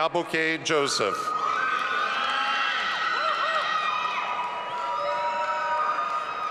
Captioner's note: audience applauding and cheering